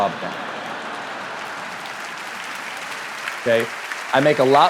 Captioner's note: audience laughs and applauds